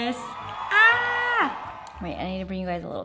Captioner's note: audience cheers